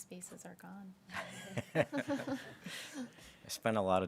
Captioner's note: everybody laughing